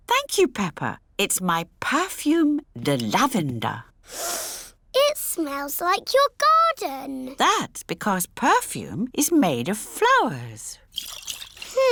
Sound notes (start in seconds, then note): 4.1 sniffs